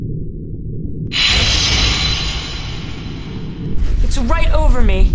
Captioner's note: mechanical thudding